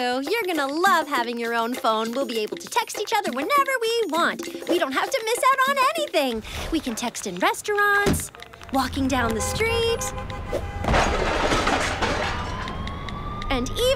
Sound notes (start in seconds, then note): 8.4 horns honking; 10.4 sirens wailing